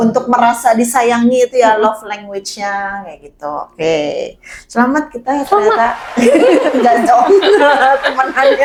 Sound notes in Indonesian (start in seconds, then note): 5.4 tertawa